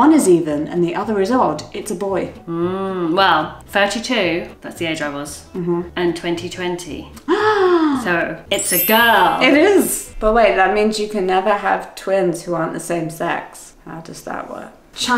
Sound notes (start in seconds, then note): 7.2 gasps; 8.5 chimes tinkling